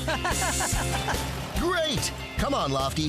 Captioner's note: laughing